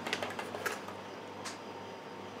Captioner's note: whirr in the background